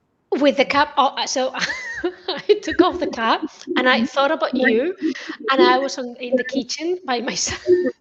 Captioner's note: laughter